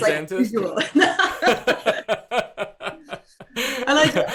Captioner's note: laughing